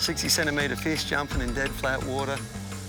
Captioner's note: water bubbling